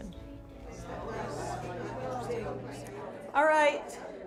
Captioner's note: people chattering